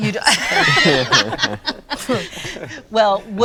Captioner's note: all laughing